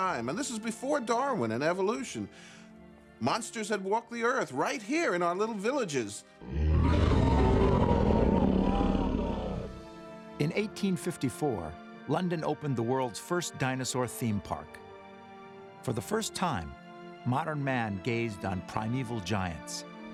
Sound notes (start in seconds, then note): 6.4 dinosaur roars